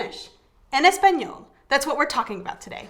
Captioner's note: speaking in a foreign language